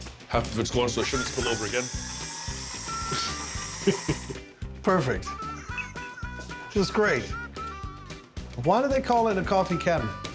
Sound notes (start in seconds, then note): 1.0 whirring sound; 3.7 chuckles